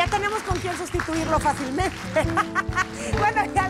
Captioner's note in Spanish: Ríe